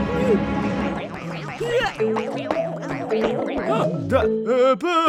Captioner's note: boinging